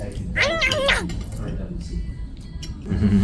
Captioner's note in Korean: 냠냠